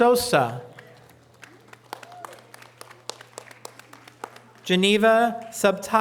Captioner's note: audience applause